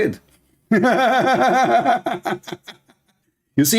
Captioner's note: Ketawa